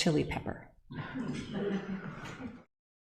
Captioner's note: audience laughs